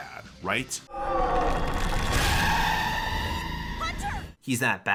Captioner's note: monster screams